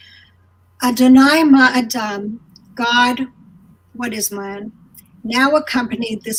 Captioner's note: speaking in foreign language